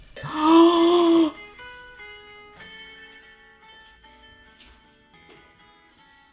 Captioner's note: gasps